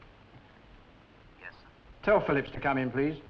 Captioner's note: on phone